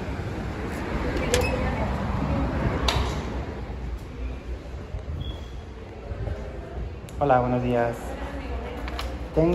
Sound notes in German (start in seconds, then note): 7.0 auf Spanisch